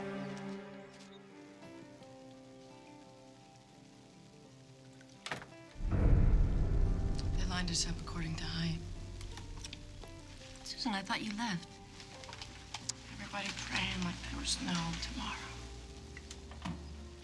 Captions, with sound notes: (gentle music) (door clicks) - They lined us up according to height. - Susan, I thought you left. - Everybody praying like there was no tomorrow.